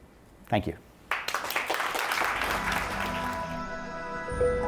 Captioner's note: clapping